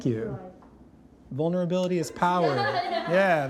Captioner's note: contestants laugh